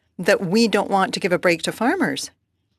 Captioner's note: speaking French